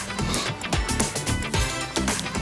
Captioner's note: blows nose; upbeat music